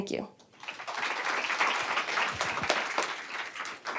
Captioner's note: applause